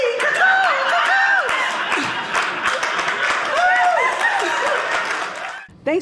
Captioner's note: audience laughing